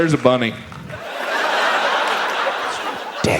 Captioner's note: audience laughs